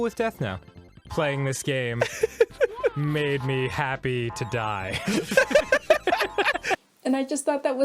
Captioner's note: laugh